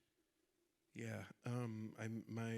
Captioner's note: none